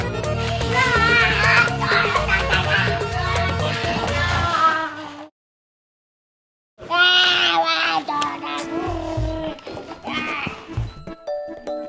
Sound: kid is Shouting

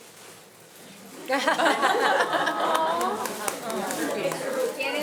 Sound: group laughing

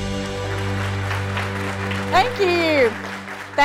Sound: audience applause

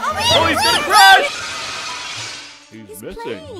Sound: ka-boom!

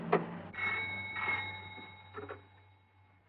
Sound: phone Ringing

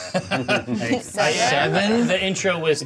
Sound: co-hosts laughing

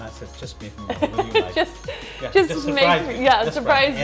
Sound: laughs

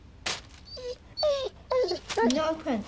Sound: Prince whimpering

